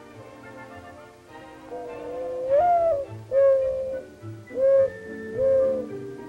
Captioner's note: mourning dove song